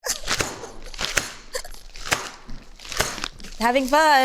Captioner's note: bag thudding; Ayo giggling